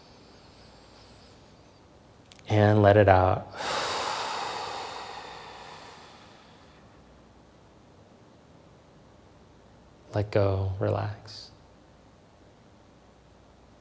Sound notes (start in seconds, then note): 3.5 breathing